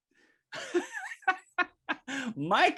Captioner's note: chuckles